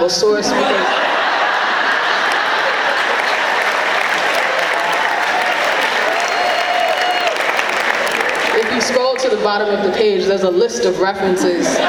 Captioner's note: clapping